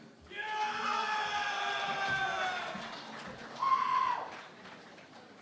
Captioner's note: cheering and Applause